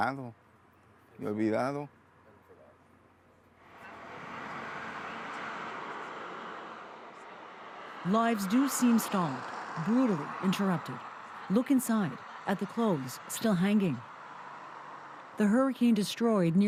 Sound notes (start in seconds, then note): 3.4 speaking spanish